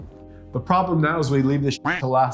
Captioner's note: quacking